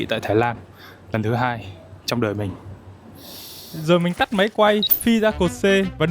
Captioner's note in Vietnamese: khịt mũi